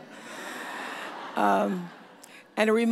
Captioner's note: audience laughs